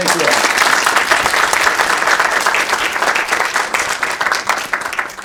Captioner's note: everybody clapping